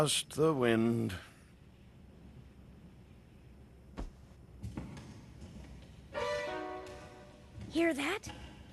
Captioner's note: footsteps resounding